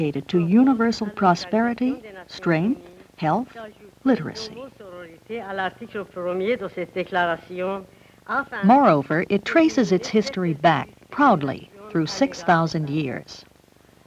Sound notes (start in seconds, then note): 4.6 Speaking Farsi